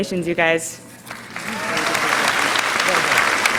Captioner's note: applause